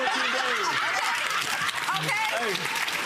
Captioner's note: audience laughing; audience clapping